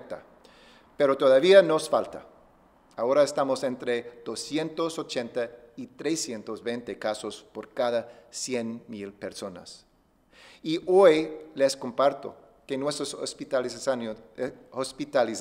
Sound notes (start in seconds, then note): 1.5 speaking spanish